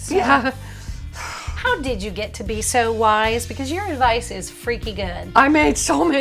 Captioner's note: sighs as if hot